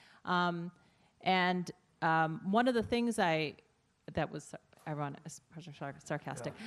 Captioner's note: laughing